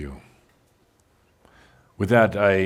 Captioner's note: music stops